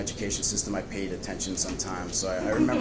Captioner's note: audience laughs